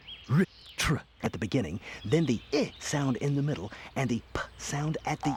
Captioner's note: makes short "i" sound